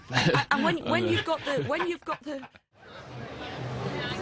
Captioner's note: Bradley laughs